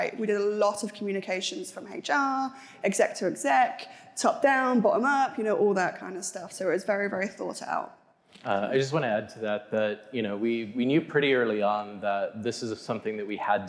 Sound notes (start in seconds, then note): none